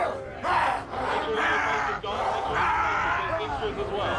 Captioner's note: all grunting; growling